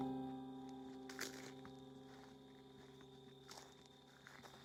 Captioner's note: footsteps